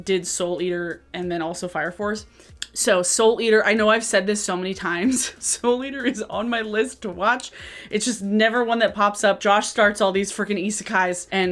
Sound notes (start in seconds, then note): 5.0 chuckles